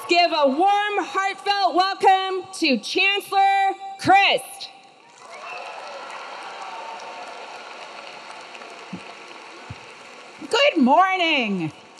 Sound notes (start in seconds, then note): 5.0 audience clapping; 5.1 audience cheering